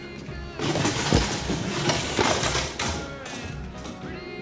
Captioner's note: stool clatters